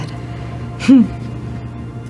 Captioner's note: laughs